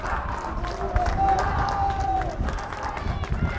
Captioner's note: fans clapping